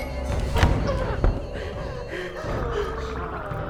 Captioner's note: door thuds; Claire gasps; doll mumbling eerily